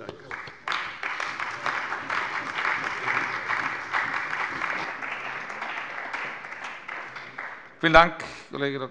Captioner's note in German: Beifall bei der CDU und dem BÜNDNIS 90/DIE GRÜNEN